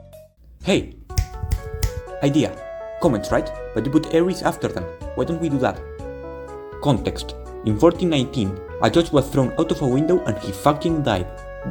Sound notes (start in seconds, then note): 1.0 three fingers snaps